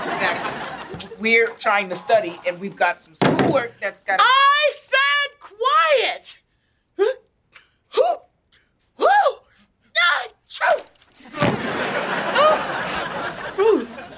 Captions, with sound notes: Exactly. We're trying to study and we've got some school work-- I said quiet! [gasping] [sneezing]